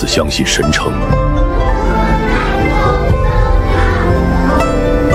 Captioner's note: the sound of recitations echoing